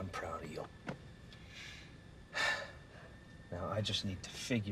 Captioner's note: Karen sighing